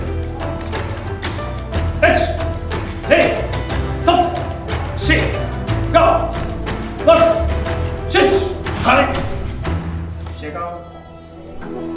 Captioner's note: speaking Japanese